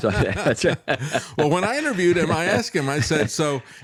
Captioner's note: laughing